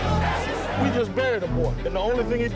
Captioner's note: marchers shouting